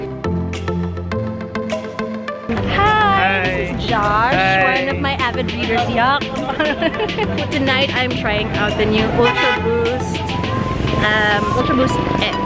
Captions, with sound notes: Hi! This is Josh, one of my avid readers -- YUCK! (giggles) Tonight I'm trying out the new ultraBOOST X